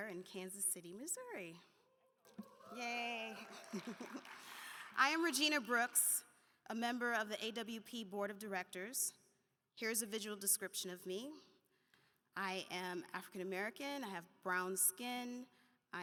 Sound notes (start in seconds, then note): 2.4 audience applauding